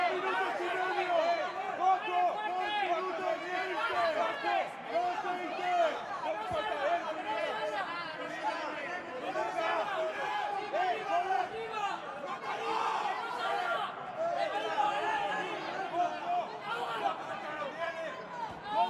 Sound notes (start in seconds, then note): 5.7 cheering